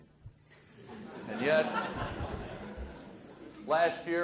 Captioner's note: audience laughs